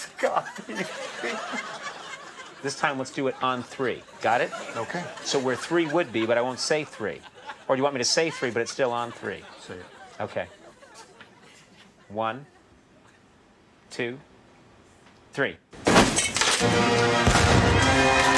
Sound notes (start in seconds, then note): 16.6 high intensity band music; 17.1 intense explosion